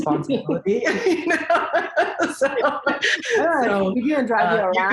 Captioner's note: laughs